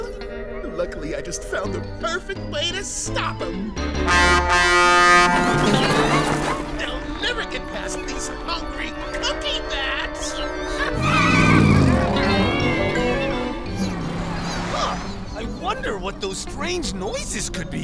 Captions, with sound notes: Luckily, I just found the perfect way to stop him! [truck horn] They'll never get past these hungry cookie bats! Huh, I wonder what those strange noises could be.